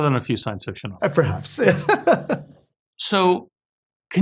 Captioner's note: laugh